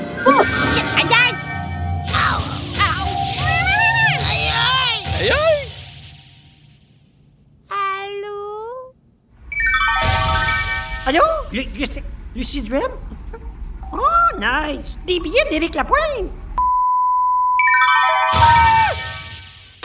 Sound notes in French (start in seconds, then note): 17.6 Son aigu